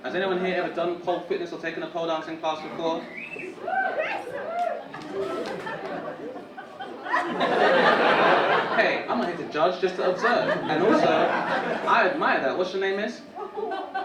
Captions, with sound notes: Has any here every done pole fitness or taken a pole dancing class before? (audience cheering) (audience laughing) Hey, I'm not here to judge, just to observe. And also, I admire her. What's your name, miss?